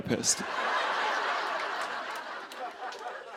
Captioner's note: laughter